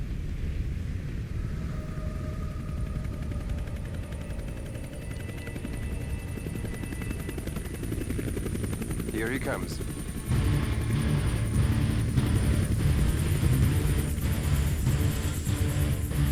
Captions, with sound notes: (helicopter whirring) - Here he comes. (dramatic music)